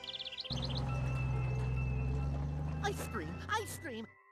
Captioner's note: bell ringing